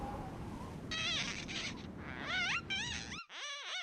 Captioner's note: glass squeaking